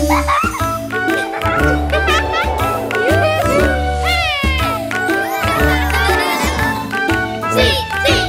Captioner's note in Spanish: Risas; Música Alegre